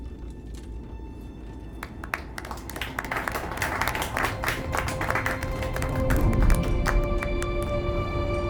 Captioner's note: applauding